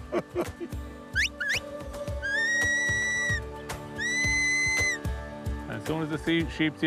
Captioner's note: both laugh; whistling